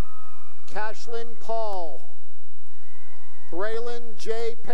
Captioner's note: cheering